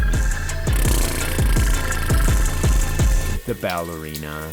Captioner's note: blowing Raspberries